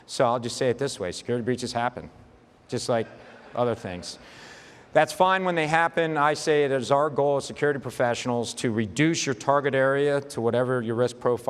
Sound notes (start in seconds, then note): 2.4 light audience laughter